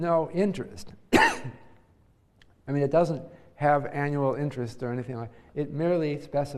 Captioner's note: cough